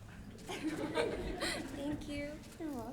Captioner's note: laughter